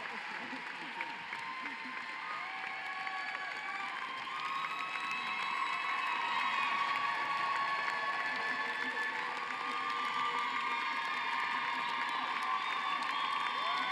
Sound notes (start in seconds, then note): 0.0 cheering and applause